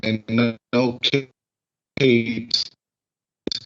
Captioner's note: glitch